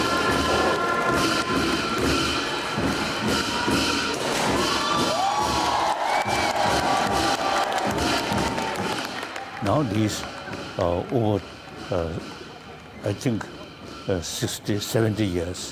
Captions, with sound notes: (confetti pops) (crowd cheering and clapping) (cymbals crashing) - Now, this over, I think, 60, 70 years,